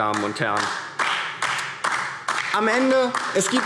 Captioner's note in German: Beifall DIE LINKE